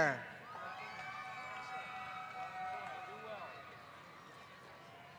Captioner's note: applause